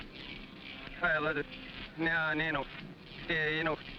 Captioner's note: buzzing